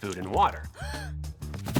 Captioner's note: gasp